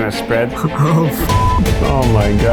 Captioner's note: beep